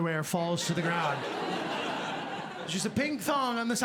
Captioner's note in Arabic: ضحك